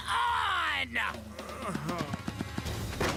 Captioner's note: groaning; thudding